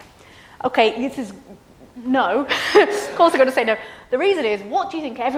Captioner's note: laughs